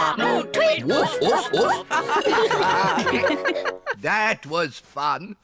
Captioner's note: all giggle